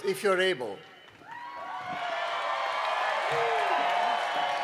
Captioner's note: cheering and Applause